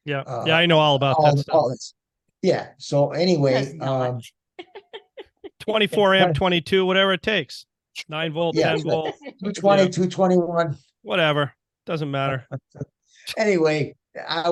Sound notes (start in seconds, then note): 4.6 laughing; 8.6 laughing; 12.3 laughing